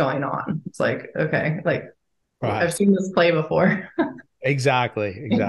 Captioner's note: chuckles